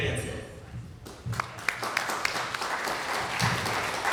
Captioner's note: applause